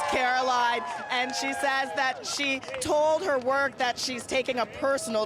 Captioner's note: cheers